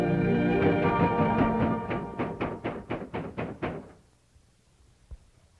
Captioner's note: knocking